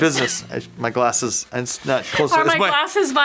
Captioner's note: laughs